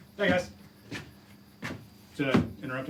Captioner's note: feet shuffling